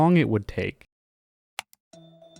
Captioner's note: mouse click; quizzical music